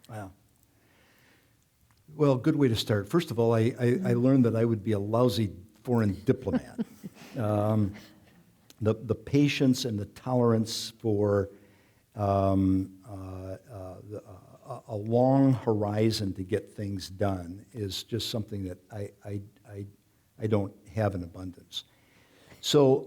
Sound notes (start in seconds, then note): 6.2 chuckling